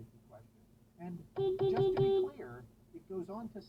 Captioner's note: beepBeepBeepBEEEP